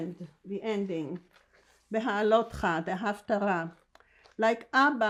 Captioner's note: hebrew